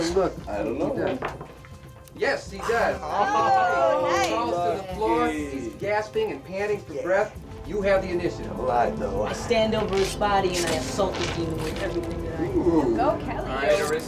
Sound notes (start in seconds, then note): 1.0 dice clatter